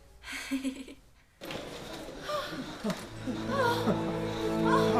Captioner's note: gasping